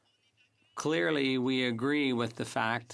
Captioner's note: speaking French